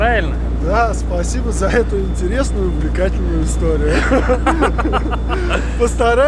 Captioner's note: both laugh